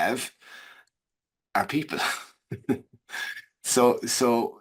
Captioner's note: chuckles